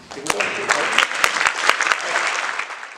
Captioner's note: audience applause